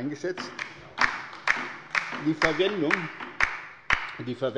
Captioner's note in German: Beifall bei der LINKEN